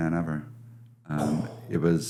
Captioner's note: exhales